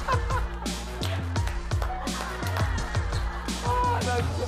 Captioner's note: Jae Suk's Real Laughter